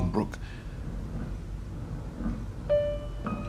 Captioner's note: footsteps approaching